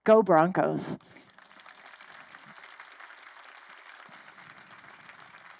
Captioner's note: crowd applauding